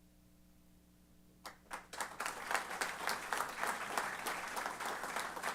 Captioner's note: applause